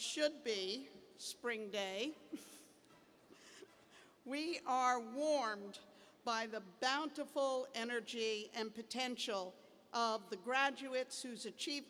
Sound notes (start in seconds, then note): 2.3 laughter